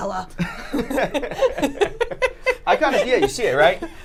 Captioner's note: laughing